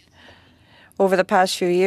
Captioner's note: speaking French